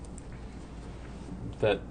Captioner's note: voiceover